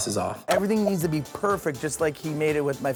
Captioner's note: clicks